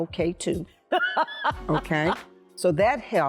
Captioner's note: laughing